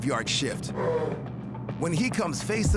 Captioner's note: bear roars